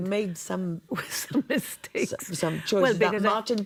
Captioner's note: laughs